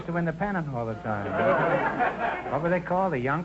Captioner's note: audience laughter